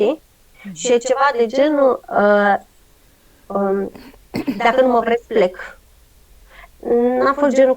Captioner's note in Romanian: voce dreasă